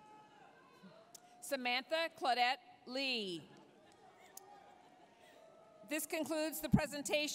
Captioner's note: applause, cheering